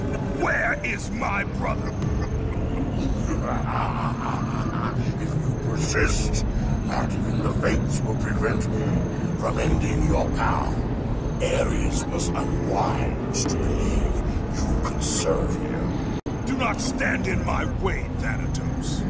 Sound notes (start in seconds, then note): 3.3 laughs